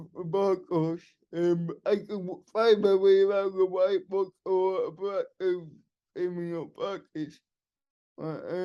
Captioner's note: laughing